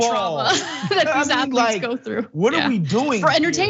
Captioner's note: laugh